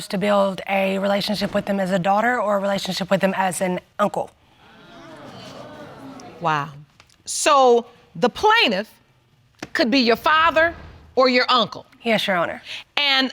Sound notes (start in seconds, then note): 4.6 audience exclaims